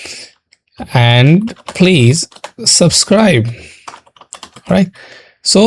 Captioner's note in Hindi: नाक से की जाने वाली आवाज़